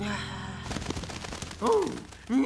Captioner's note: sighing